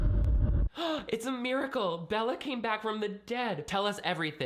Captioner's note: dramatic music; gasps